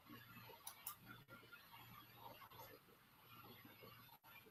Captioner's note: clicking